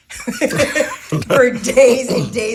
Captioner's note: people laughing